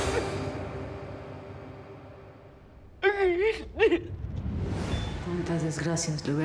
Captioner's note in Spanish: llanto